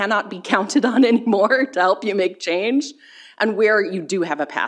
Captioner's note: chuckles